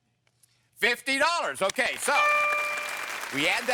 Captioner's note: audience applause